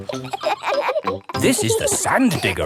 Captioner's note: kids laughing